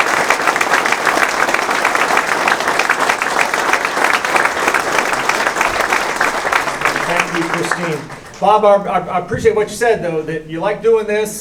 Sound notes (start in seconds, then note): 1.4 applause